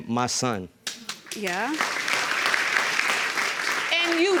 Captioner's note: audience applauding